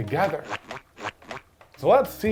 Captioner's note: comical squelching